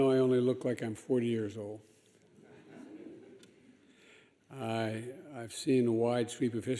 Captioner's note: laughter